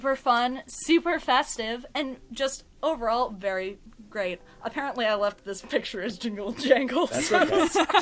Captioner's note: laughs